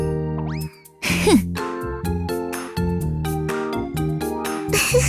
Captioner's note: cough